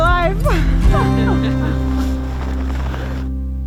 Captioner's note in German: lacht